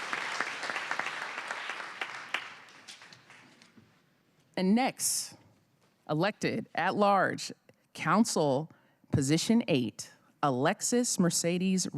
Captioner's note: cheers and applause